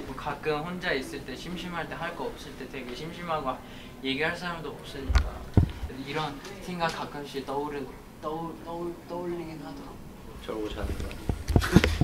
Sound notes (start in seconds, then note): 3.6 inhaling